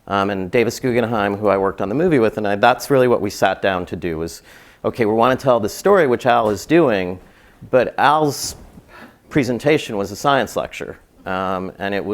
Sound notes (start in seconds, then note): none